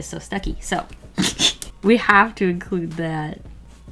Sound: laughs

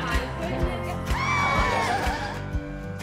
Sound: people yelling

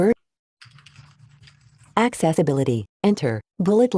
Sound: automated Voice

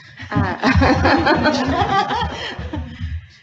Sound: laughing

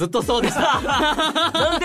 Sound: laughs

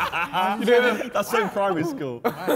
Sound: men laughing

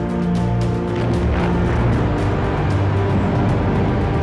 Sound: dramatic determined music; powers rumble

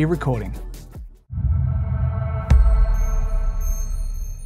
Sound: pulsating sound

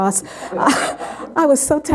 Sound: laughter

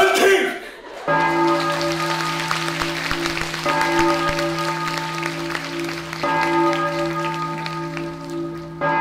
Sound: bell ringing in the distance

